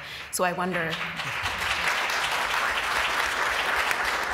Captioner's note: applause